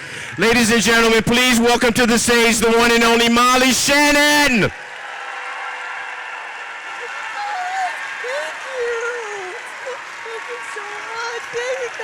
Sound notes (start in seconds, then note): 0.0 audience cheers; 4.7 audience cheers & applauds